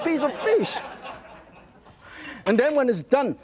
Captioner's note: audience laughing